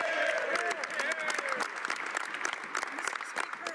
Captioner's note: speaking French